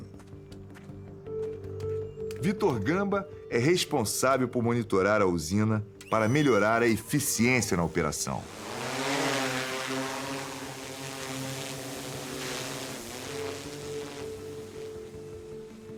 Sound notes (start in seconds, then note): 8.5 drone propellers humming